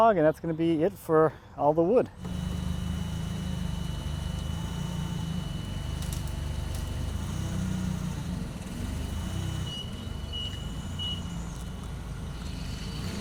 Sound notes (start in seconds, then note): 2.5 fork truck motor humming; 9.9 fork truck beeping